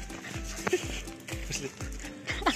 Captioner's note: laughter